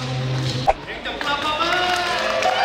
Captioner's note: A round of applause!